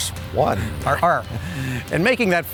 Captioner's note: laughing